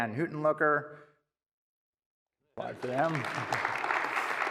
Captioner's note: applause